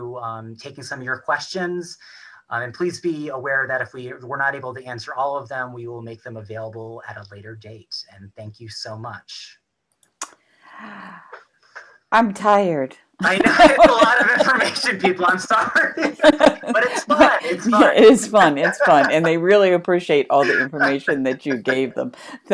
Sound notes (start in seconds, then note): 10.5 exhales; 15.7 laughter